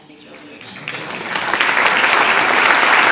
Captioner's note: applause